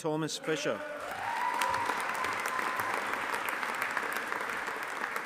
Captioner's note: audience applauding